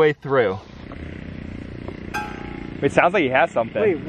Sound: faint engine whirring

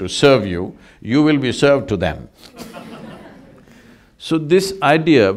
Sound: laughs

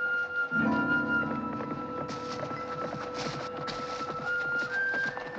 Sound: hoofbeats Approaching

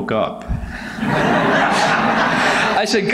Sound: audience laughs

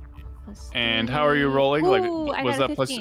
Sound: mumbles

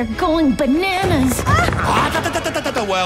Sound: exclaiming; stuttering playfully

